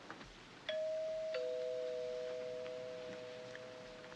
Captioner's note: doorbell rings